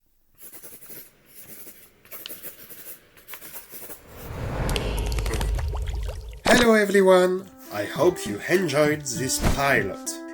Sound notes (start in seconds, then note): 1.2 A pen sliding/writting on paper sheets sound; 4.7 inksplash sound